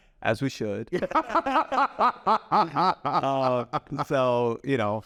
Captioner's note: laughs; both laugh